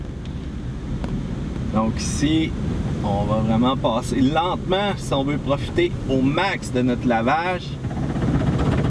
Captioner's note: French